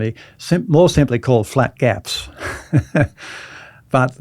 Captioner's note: laughs